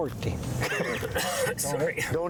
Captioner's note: laughter